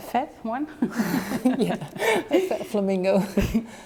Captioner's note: laughing